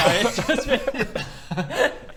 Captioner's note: incredulous giggles